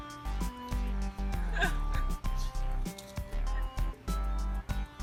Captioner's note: laugh